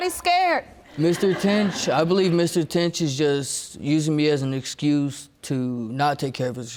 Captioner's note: audience laughing